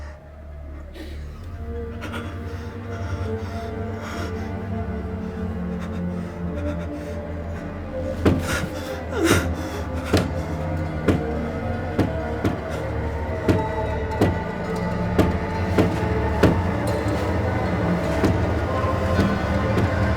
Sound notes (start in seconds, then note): 0.0 crying; 8.1 door slamming; 15.1 curtains rustling